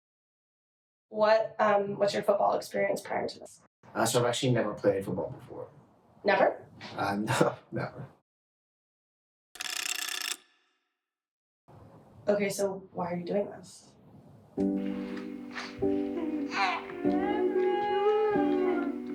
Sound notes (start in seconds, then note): 9.5 counter sound; 14.6 soft music